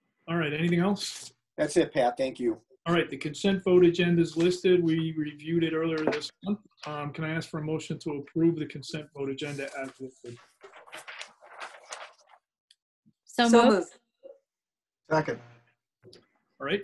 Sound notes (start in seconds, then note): 9.4 paper rustles